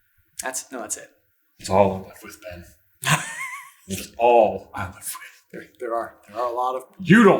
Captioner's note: laughs